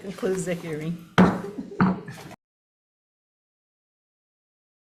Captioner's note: gavel bangs